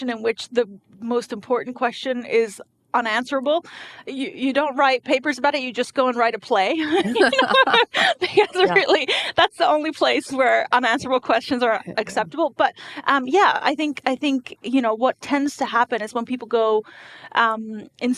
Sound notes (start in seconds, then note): 6.8 laughing